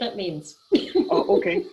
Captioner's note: laughing